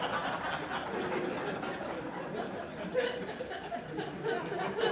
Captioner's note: laughter